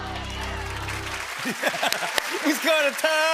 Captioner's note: applause